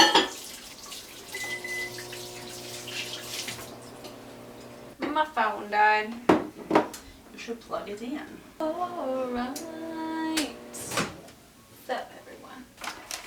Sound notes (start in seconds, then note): 1.3 beeps